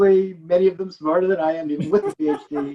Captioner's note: laughing